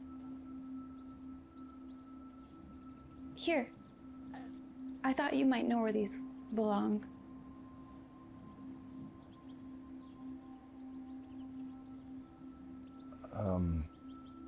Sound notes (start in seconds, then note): 8.6 birds chirping